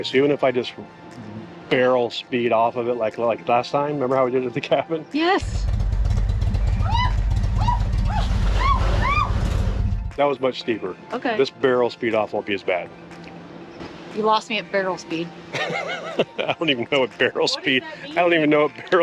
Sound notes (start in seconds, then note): 6.8 screaming; 15.5 laughing